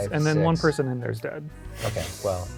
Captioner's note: pat